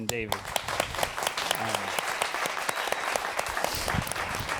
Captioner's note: applause